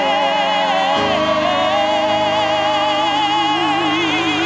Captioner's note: audience applauds